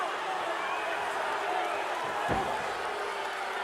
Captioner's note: audience jeering